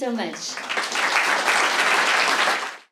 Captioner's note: applause